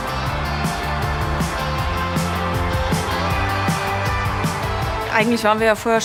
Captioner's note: applause